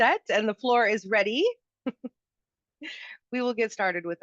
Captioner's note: chuckles